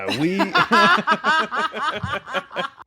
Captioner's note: all laughing